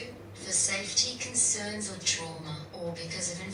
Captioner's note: none